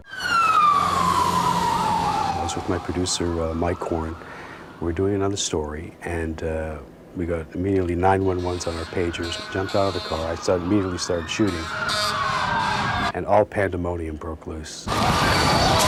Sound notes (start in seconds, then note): 0.0 sirens wailing; 11.9 cars honking